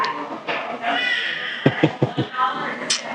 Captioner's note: laughing